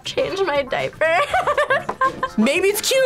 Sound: laughs

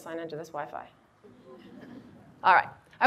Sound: audience laughs

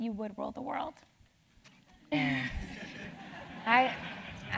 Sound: laugh

